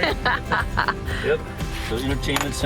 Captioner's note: laughs